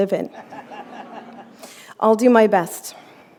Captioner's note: laughter